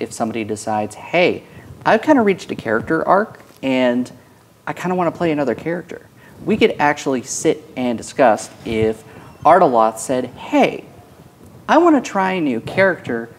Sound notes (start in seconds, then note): none